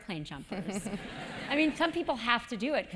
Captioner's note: laugh